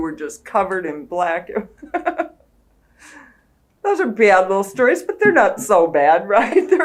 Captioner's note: laughs